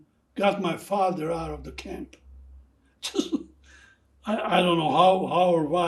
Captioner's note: laughing